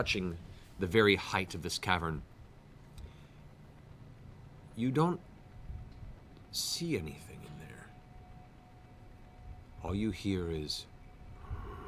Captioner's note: low breathing sound